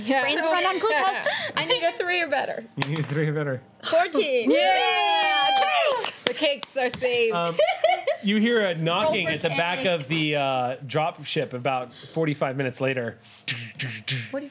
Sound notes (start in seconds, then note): 4.5 cheering